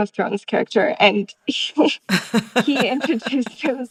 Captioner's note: laughter